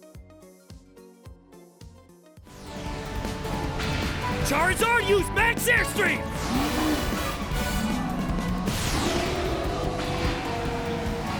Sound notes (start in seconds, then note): 0.2 exciting music; 6.4 Charizard growls; 8.5 exciting music